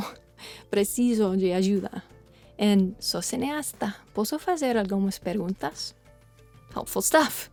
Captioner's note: speaks in Portuguese